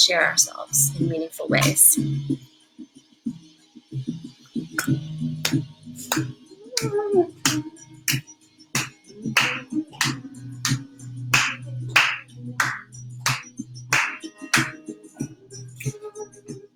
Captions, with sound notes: to share ourselves in meaningful ways [clapping to rhythm]